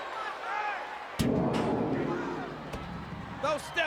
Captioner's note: stairs clattering